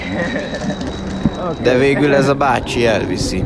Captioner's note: nervous laugh